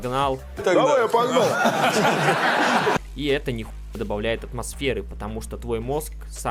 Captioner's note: laughter